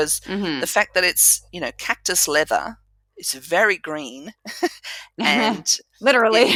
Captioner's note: laugh